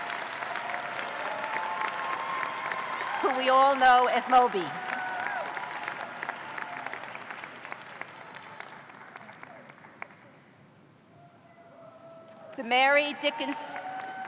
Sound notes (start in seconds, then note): 0.0 cheers and applause; 11.0 cheers